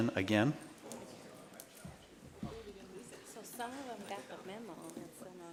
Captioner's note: people chattering